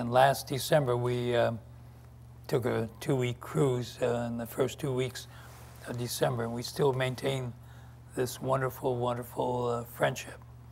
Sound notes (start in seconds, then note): none